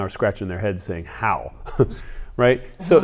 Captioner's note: laughs